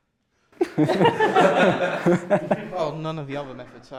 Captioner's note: laughter